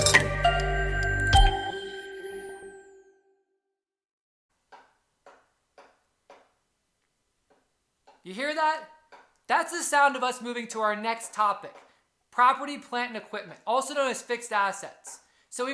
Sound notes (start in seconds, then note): 3.9 knocking sound